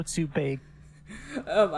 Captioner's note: laughs